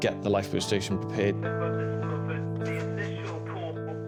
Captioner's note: radio